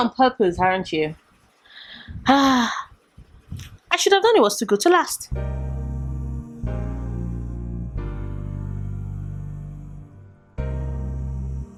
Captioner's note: sigh